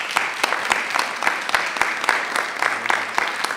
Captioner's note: applause